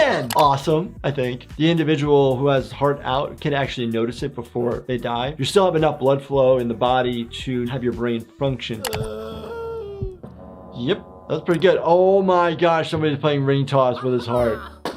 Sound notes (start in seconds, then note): 8.7 Nutty moaning; 14.8 balloon popping